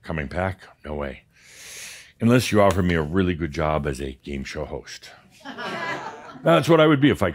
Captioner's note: some chuckles